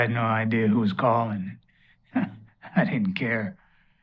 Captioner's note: laughs